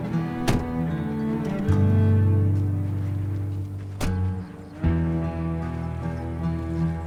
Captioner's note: gentle music; door slams shut